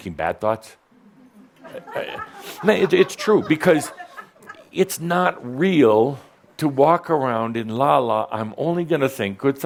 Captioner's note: some laughter